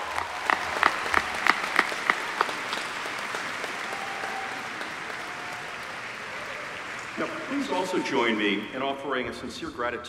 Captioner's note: applause